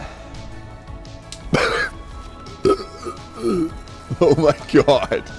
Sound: coughs and burps

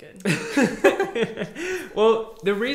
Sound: both laughing

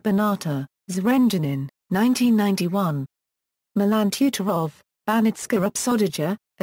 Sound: German

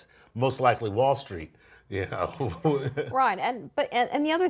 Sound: laugh

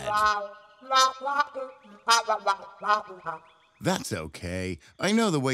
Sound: Hoot honking

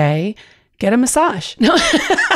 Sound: alughs

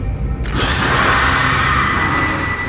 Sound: Gloom Hands screech

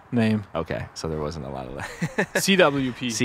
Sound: laughs

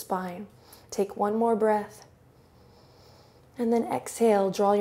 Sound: inhales

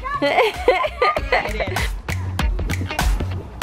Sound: giggles

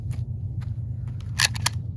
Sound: birds chirp; footsteps

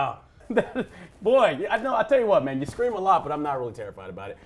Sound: laughs

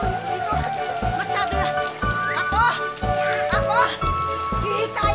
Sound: panting

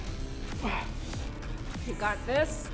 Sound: man breathes heavily

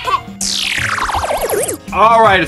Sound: lasers whooshing

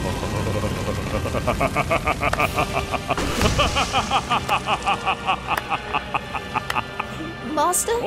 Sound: epic choir; laughing and clapping; epic choir

